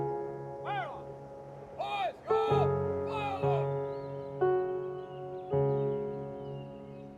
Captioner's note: somber music; soldiers yelling